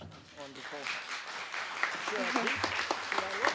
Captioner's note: applause